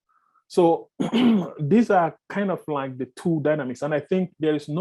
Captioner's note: clears throat